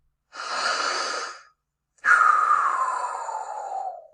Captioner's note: breathing